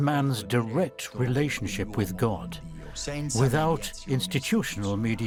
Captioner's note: in Italian